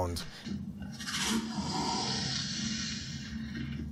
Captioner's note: thudding sounds, alien sounds, ship sounds